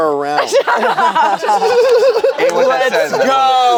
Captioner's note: group laughs